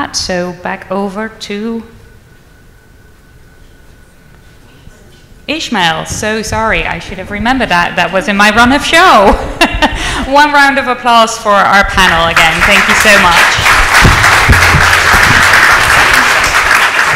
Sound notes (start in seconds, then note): 9.7 laughs; 13.9 audience applauds